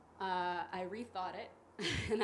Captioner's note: chuckles